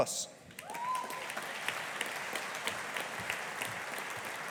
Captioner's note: audience applauding